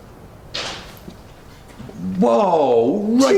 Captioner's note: clattering